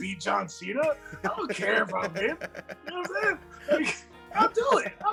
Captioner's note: laugh